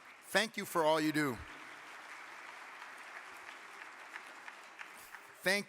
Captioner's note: audience clapping